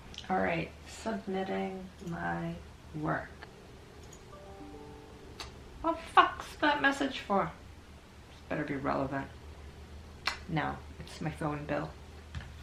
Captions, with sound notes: Alright, submitting my work. (university email notification sound) What the fuck's that message for? This better be relevant. No. It's my phone bill.